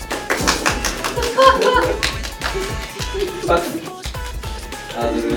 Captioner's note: clap clap clap